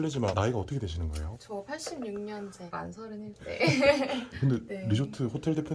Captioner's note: laughing